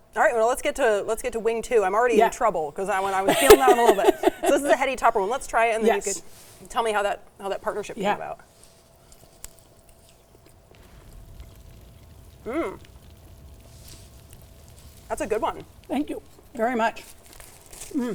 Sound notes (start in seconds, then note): 11.6 fire crackling